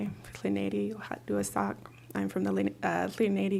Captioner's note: non-english speech